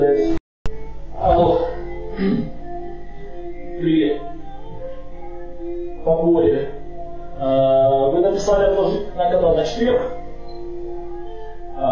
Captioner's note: speaks on the phone